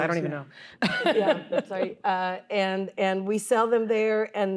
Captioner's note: laughter